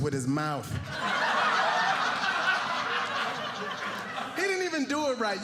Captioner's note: audience laughing